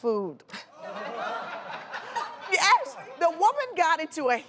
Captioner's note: audience laughing